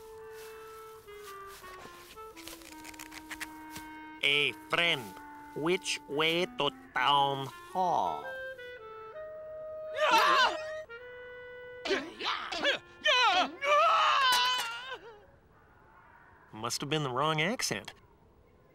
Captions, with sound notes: Hey, friend. Which way to town hall? (SCREAMS) (GRUNTS) Ahhh! Must have been the wrong accent.